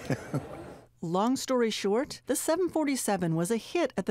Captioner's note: laughing